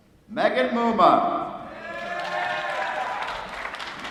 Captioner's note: applause